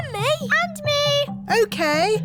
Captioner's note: none